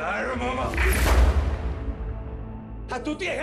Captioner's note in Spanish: Disparo